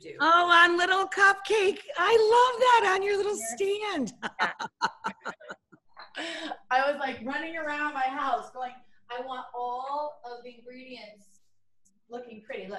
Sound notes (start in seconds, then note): 3.5 Rachael laughs